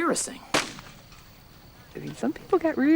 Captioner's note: gunshot